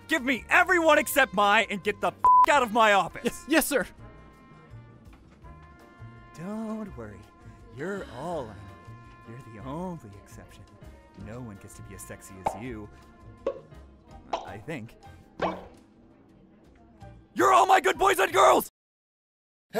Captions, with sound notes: Give me everyone except Mai and get the f*** out of my office. -Yes, yes sir! Don't worry ... You're all I need... You're the only exception... No one gets to be as sexy as you! *poof* -I think. You're all my good boys and girls!